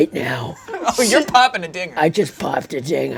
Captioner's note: laughs